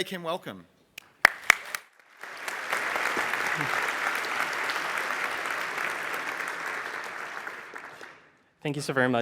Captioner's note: applause